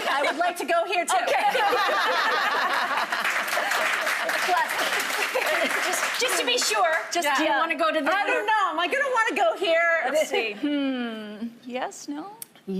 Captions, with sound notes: - I would like to go here, too. - Okay. (laughing) - Just to be sure. - Do you want to go to the? - I don't know. Am I going to want to go here? - Let's see. Yes, no?